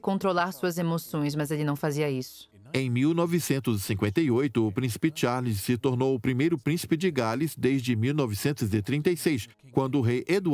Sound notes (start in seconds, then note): 2.3 voiceover